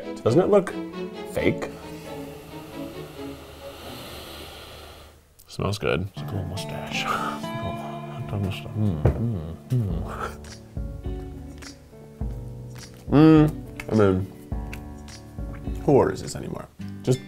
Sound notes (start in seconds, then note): 2.0 sniffing; 2.0 dramatic music